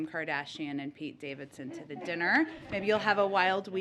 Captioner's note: laughter